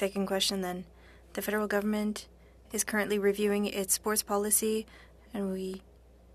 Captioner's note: speaking French